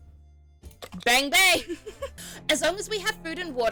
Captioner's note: laughs